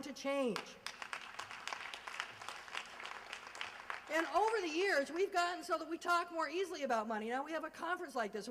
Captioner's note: applause